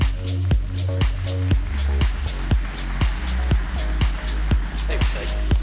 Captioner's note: applause